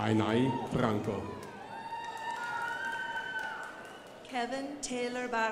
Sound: crowd applauding

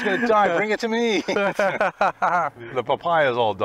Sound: laugh

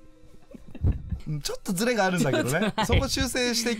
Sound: laughs

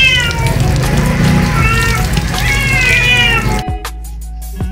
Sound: Mapa continuously Meowing; Mapa Meowing

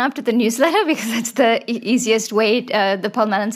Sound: chuckles

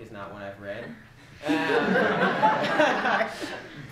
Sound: laughter

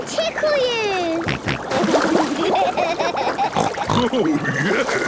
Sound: snorting, giggling

